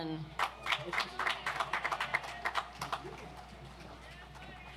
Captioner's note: audience applauds